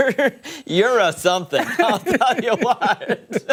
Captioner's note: laughter